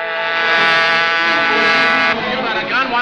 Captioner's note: engine revving